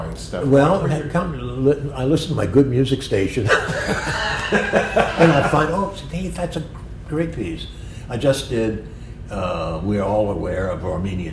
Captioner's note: laughter